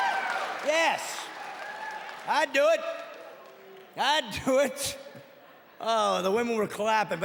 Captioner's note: audience cheering